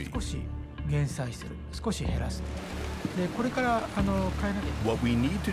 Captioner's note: speaking Japanese